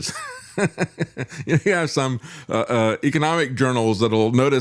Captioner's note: laughs